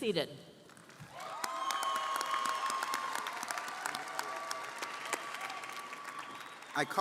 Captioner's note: audience cheering & applauding